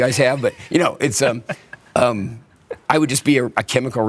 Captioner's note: laughs